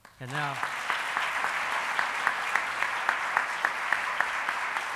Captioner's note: applauding